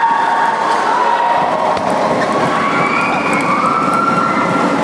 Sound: applause

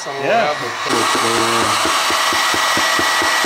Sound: blow dryer

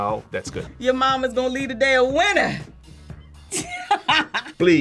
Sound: laughs

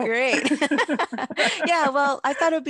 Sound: both laugh

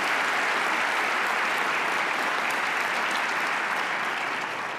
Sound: applause

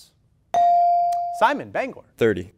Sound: ding

